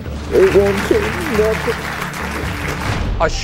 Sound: audience applauding

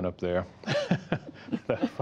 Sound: laughter

